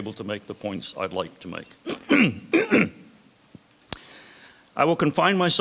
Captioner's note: clears throat